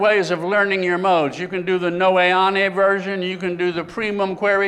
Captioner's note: speaking greek; speaking latin